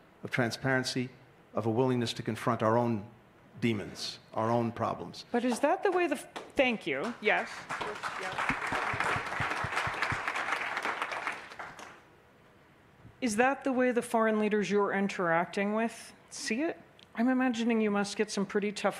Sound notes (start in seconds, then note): 10.8 applause